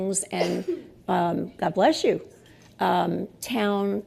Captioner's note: sneeze